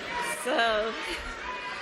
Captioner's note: cheering